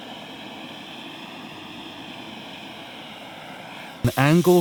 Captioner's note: blowtorch whooshing